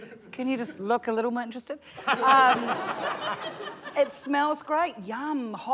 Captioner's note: laughter